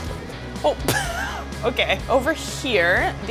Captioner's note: laughs